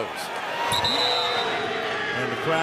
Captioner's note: whistle; booing